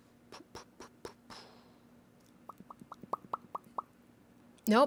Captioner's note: mouth popping sounds of contemplation